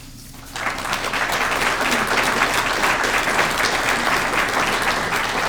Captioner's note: audience clapping